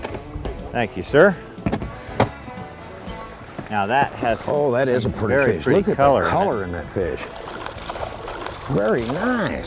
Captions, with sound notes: thank you sir now that has..oh that is pretty fish. Look at the color in that fish [Splash] very nice